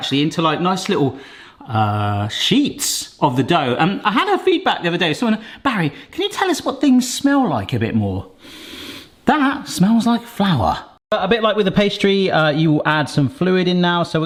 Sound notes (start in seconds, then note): 8.3 inhales